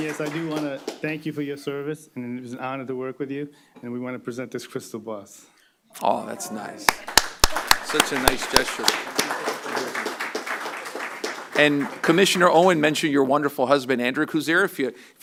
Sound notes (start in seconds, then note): 0.0 applause; 10.4 applause